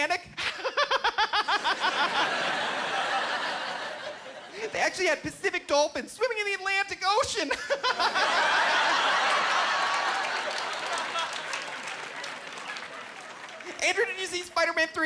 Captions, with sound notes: (Laughing) "They actually had Pacific dolphins swimming in the Atlantic ocean." (Laughing) "Andrew, did you see Spiderman 3?